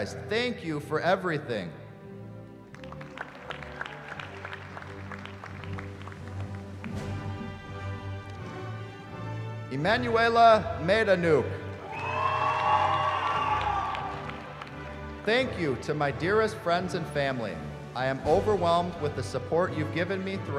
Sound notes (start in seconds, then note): 2.6 applause; 11.8 cheering